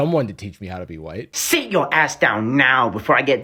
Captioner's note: mangled "Chinese" accent